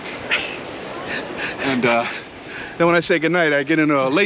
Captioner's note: laughs